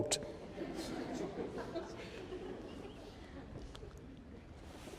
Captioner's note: laughter